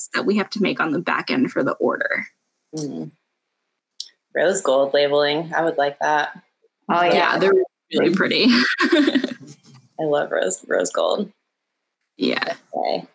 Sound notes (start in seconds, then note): 7.1 laughs